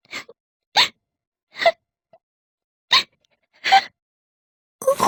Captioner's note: crying